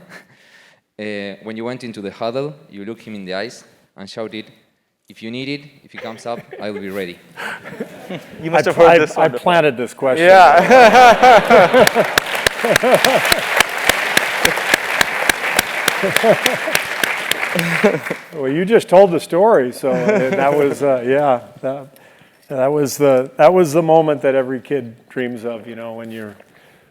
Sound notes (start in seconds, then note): 13.4 laugh; 17.3 applause